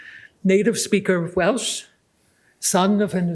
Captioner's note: none